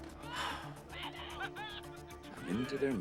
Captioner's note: man laughs